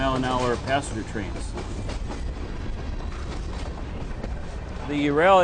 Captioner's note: train wheels rumble on the track